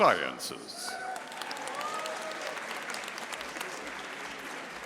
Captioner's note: audience applauding